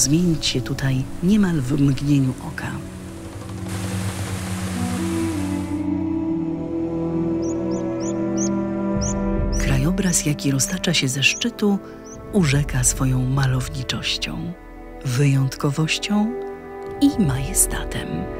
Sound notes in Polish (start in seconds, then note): 2.8 padający deszcz i szum strumyka wypełnionego wodą; 7.3 słychac głos ptaka siwerniaka